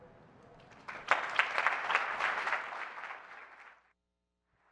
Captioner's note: applause